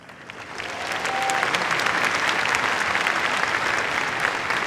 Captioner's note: cheers, applause